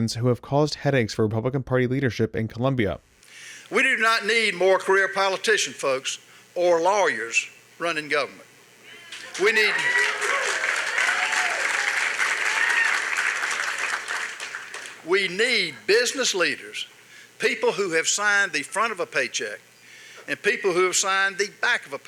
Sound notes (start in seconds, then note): 8.9 cheers and applause